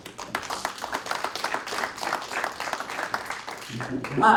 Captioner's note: applause